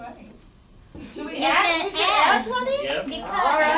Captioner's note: voiceover; voiceover